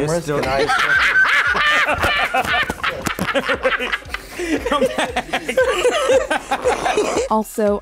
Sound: Harrison Ford and interviewer laughing

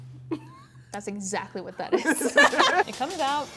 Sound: laughs

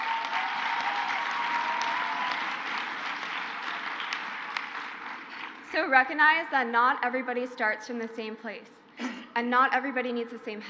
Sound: crowd cheers

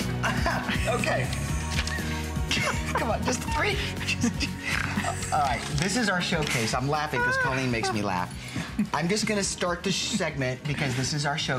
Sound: laughter

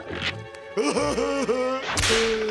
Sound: laughing

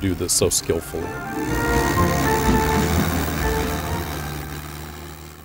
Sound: engine running

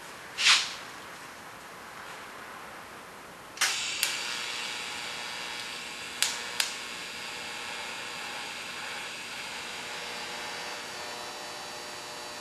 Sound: welding

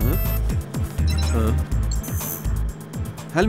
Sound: phone ringing

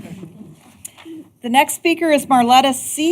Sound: laughter

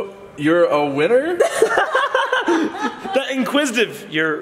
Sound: laughter

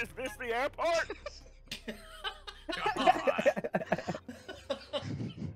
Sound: laughing

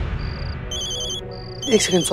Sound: phone ringing

